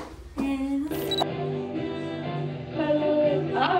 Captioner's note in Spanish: tarareando